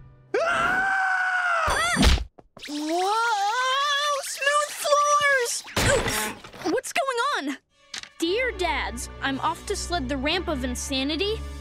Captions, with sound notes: [screaming] [thudding] Whoa! Smooth floors! [thudding] Oof! What's going on? "Dear dads...